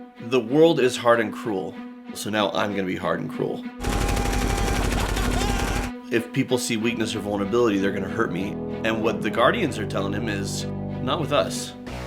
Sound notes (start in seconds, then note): 3.8 machine gun fire; 4.9 Rocket laughs